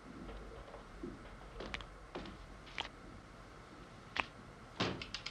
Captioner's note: liquid dripping